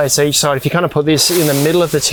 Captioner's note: fabric hissing